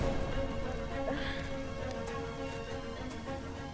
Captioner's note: Michelle coughs; groans